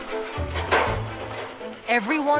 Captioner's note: bright upbeat music; metal clunking